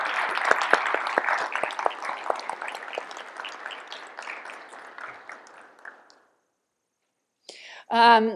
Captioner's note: applause